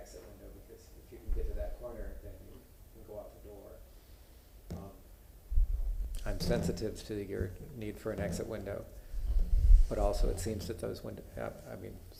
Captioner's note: off microphone